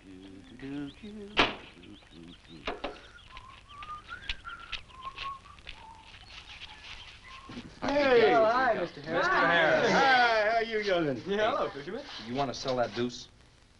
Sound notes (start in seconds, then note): 0.0 humming; 2.8 whistling